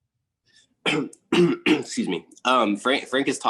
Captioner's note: coughs